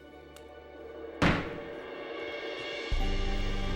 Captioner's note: gavel bangs